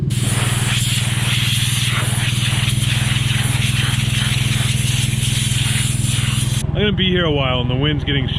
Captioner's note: blowing sound